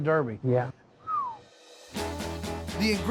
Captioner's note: whistles